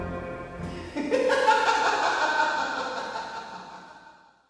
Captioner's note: person laughing